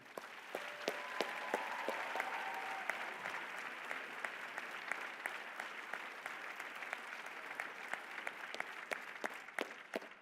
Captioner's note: applause